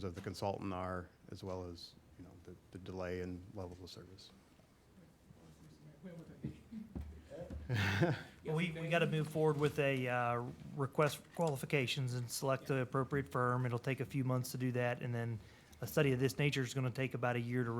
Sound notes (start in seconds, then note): 7.6 laughter